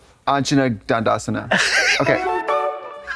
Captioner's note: Katya smirtles